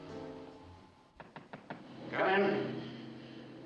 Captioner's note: knocking on door